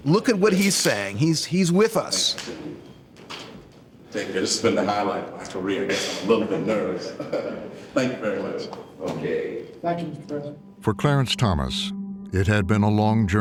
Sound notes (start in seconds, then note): 7.8 chuckles